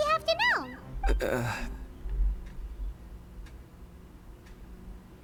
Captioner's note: clears throat